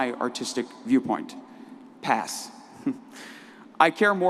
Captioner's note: laughs